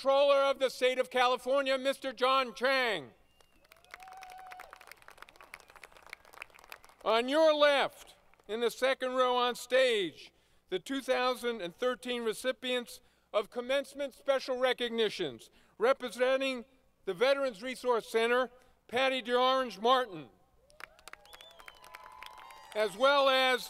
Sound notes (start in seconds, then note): 6.9 applause; 20.6 applause